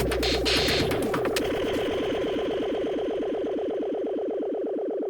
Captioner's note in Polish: Uderzenia i dudnienie cichną